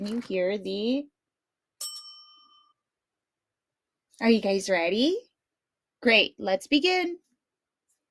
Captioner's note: bell dings